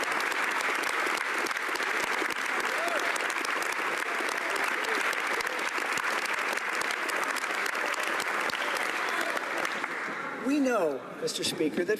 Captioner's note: applause